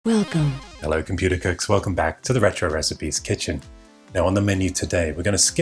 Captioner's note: computer Voice